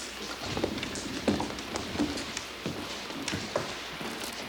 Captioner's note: thunder claps